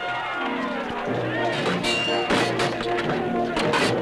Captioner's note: whistling